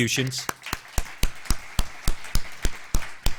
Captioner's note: clapping